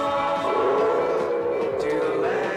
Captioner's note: dinosaur roars